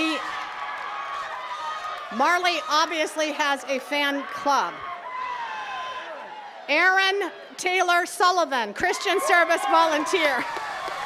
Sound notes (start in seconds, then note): 5.5 attendees cheering; 10.8 attendees cheering and clapping